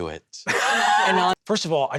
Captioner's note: laughs